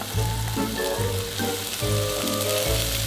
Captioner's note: oil sizzling